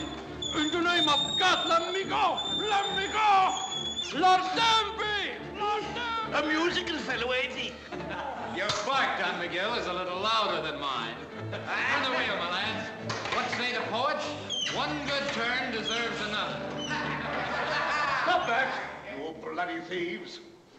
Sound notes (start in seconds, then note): 11.4 chuckles; 16.7 men laughing